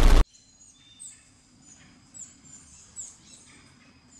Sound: birds chirping

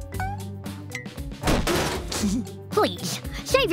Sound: chuckles

